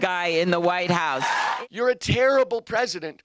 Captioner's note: cheering and applause